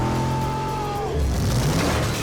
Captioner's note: yelling